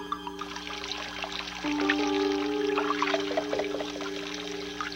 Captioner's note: tense music; water running